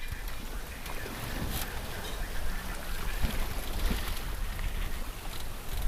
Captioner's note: sound of wind and water rushing past sailboat